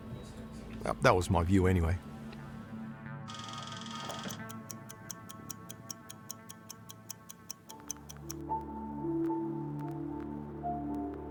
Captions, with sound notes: Uh, that was my view anyway. (clock whirring and ticking) (pensive music)